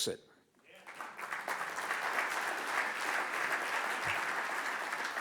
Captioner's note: audience applauds